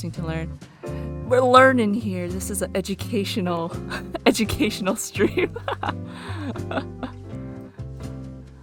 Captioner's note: laughs